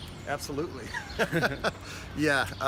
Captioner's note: chuckles